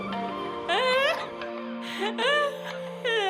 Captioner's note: chuckles